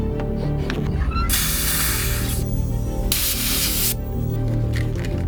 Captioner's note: valve hisses